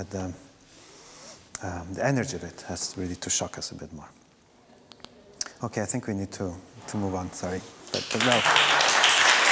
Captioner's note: audience Applause